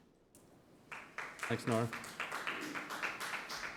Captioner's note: members clap